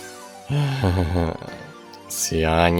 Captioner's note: sigh